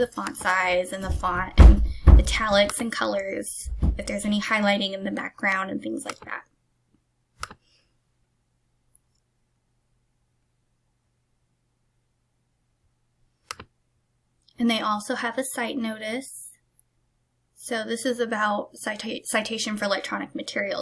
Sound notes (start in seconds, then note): 7.4 click; 13.4 click